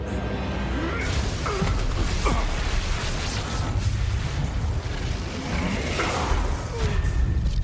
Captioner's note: lightsaber noises